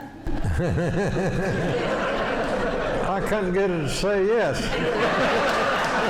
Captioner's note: laughing